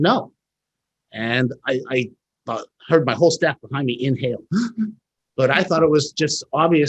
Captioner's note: gasps